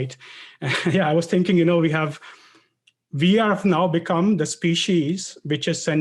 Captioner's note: laugh